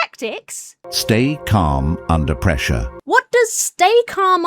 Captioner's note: AI Voice